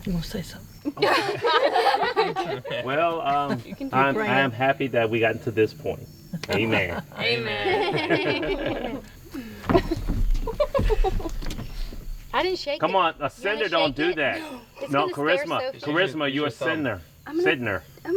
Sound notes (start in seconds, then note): 0.8 all laughing